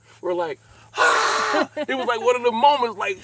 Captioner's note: laughs